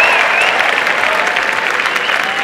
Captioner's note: applause and cheering